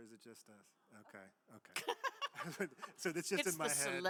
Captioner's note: laughs